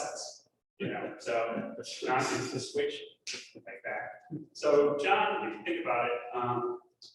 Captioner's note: snap